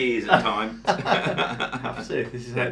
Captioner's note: both men laugh